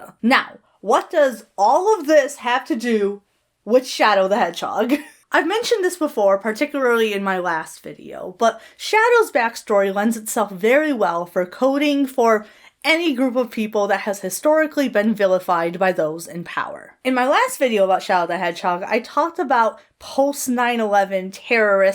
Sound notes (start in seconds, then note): 4.9 Hana chuckles